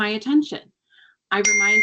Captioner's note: cellphone chimes